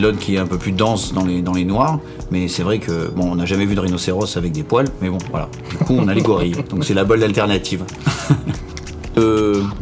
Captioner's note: laughs